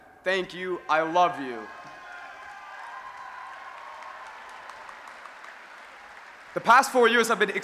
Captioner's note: cheering